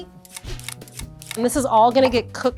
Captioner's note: blade peeling carrots